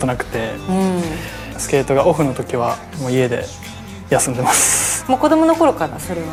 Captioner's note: laughs